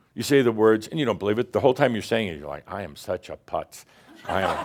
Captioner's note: laughter